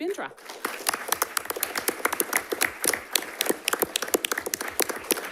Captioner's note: audience applauds